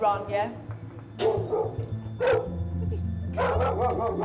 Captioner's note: dog barking